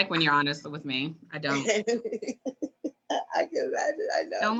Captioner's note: laughs